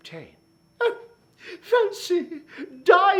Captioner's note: gasps